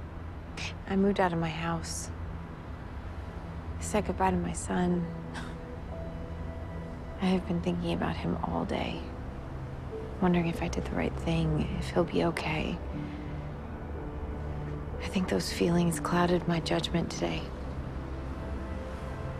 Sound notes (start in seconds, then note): 5.9 scoffs